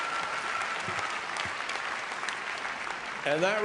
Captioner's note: applause